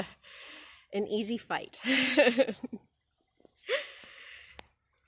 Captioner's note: laughs